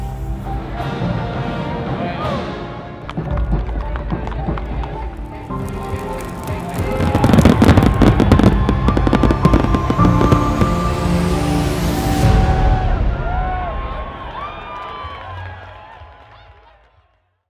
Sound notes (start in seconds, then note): 3.0 hoofs clopping; 7.7 bang of fireworks; 14.5 crowd cheering